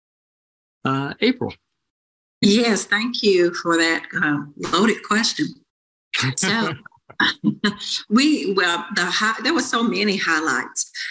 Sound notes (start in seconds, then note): 6.2 laughs